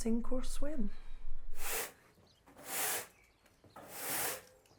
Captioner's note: broom rustling on floor